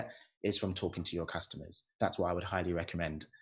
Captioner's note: none